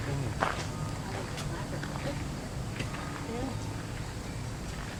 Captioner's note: women Talking in Background